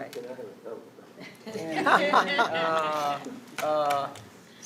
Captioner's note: all laughing